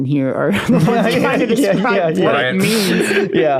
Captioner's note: laughing